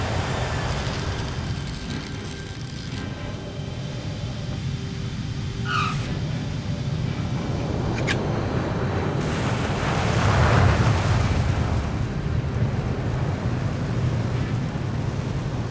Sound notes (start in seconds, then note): 0.6 tearing Continues